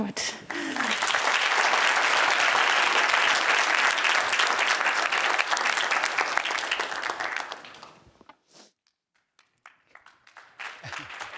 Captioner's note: applause